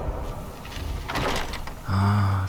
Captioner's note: heavy doors opening and closing